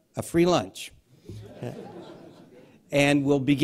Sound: laughter

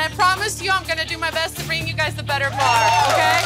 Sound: cheers

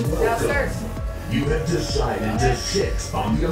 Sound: robotic Voice

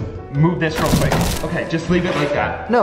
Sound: crunch

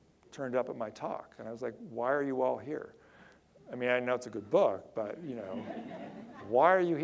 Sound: audience laughter

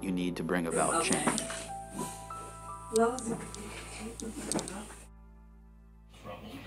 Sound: speaking Georgian

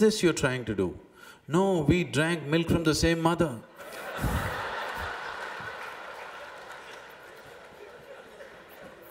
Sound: laughter

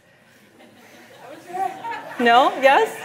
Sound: laughter

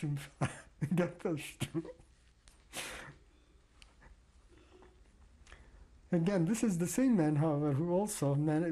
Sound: laughs

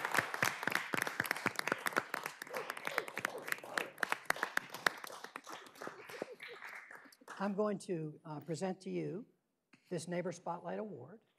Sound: applause

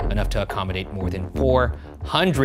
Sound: none

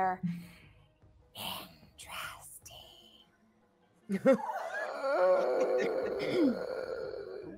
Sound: wheezing

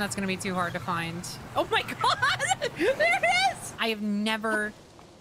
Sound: laughter

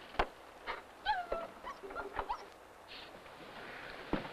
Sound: dog whimpering

